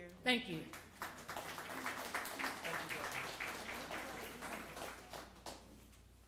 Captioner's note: applause